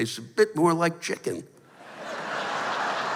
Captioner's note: laughter